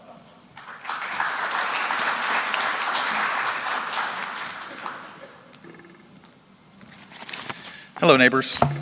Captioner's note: applause